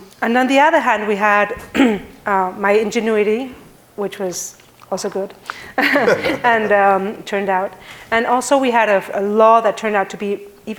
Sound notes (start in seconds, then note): 5.8 chuckling